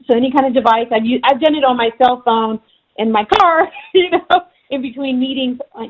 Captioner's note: laughing